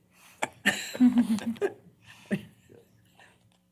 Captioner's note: laughter